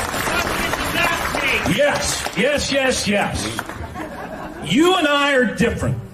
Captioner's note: applause